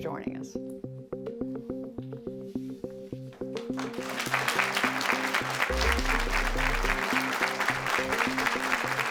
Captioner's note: applause